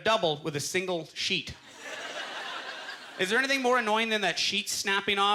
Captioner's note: audience laughter